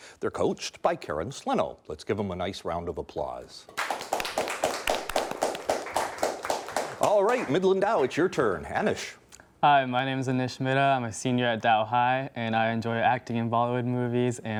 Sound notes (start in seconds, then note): 3.7 clapping